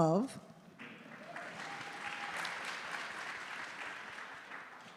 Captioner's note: audience applauding